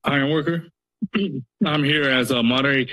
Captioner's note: coughs